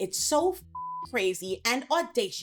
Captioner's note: beep